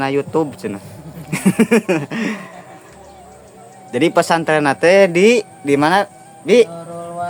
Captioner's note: laughs